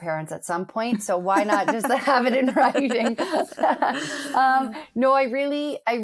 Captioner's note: laughs